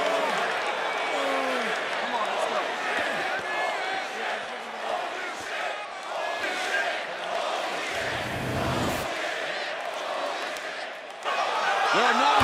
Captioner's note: crowd cheering